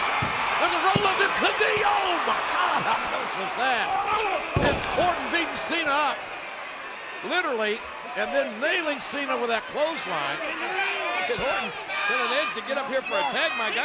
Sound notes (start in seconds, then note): 0.1 hands thudding; 4.1 blow thudding